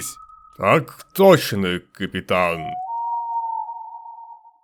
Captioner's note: sarcasm